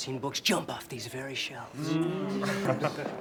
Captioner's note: guests chuckling